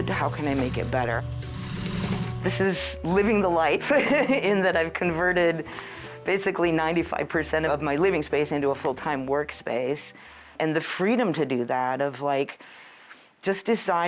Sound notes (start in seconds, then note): 1.1 sewing machine roaring; 3.8 laughing